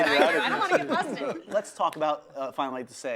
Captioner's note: group laughs